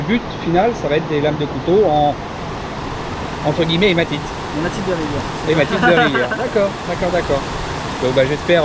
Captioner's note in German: Gelächter